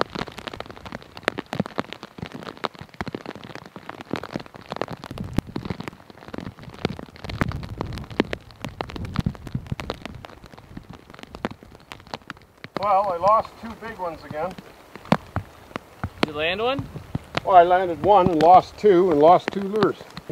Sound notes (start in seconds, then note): 1.6 rain patters